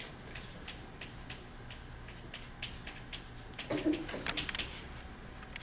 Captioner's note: chalk clicking on board